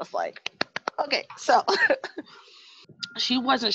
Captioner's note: laughs